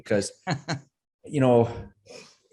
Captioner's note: chuckles